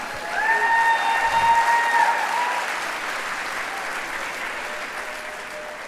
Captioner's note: applause